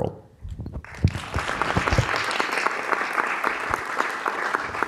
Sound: audience clapping

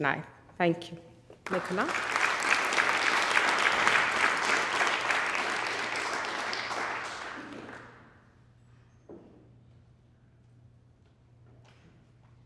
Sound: audience applauding

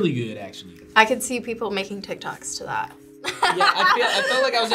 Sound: laughs

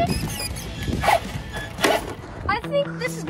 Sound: tires squeak

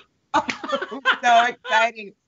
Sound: both laughs

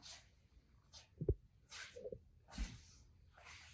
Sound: slow footsteps

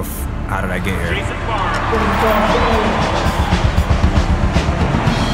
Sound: voice of announcer over drumming and cheering; drumming

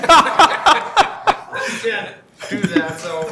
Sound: board laughs

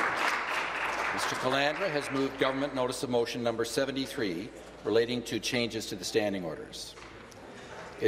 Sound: applause

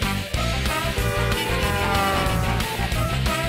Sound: honking

